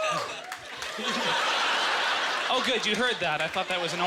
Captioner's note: audience laughter